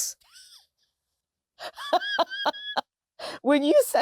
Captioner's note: laughter